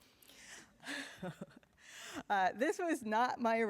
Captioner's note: chuckles